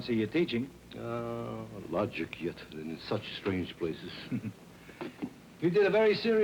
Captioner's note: chuckles